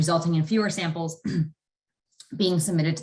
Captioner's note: clears throat